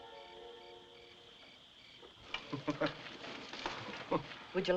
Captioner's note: Harry Chuckling